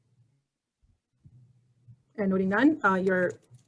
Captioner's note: silence